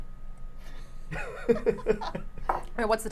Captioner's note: chuckles